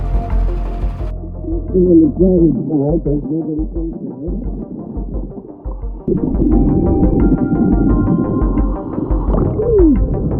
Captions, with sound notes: I can see in the driver's side so there's nobody inside. (tense music continues) (water bubbles) Woo!